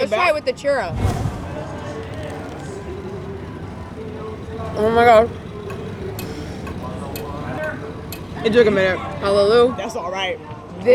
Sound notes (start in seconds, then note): 6.0 clock ticking